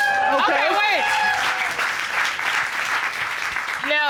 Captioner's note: audience cheering, applauding